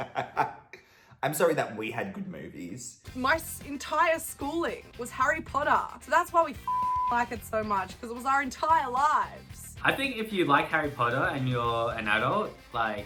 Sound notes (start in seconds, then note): 6.6 beep